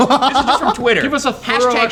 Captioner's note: laughs